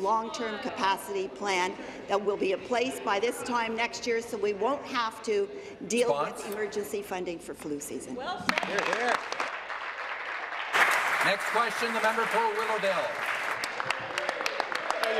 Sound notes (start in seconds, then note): 12.2 applause